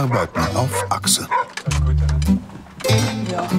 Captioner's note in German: Hundebellen, griechische Musik